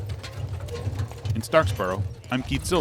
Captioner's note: wagon clatters